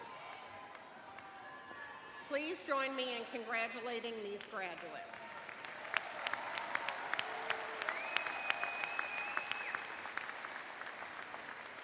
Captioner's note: cheers and applause